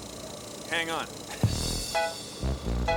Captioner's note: chuckles nervously